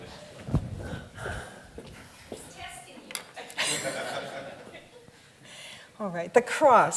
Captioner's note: laughs